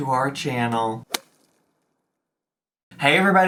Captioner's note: air whooshing